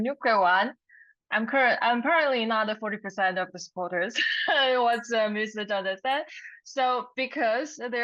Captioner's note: laugh